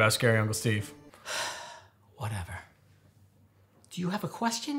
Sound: sighs

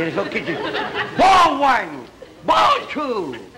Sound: child's voice

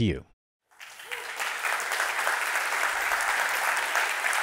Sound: audience applauding

